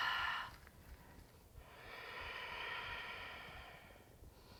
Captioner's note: deep breathing